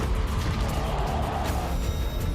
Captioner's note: roar